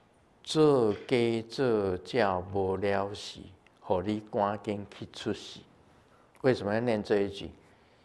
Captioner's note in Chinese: 台語